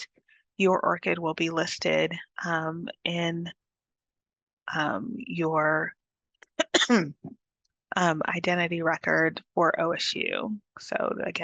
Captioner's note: coughs